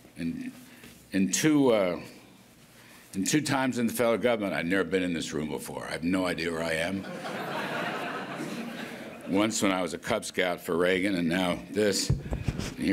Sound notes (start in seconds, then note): 7.0 laughter